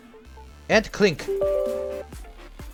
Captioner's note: UAC Sound